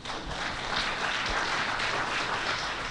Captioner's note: applause